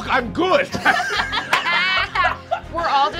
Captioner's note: laughing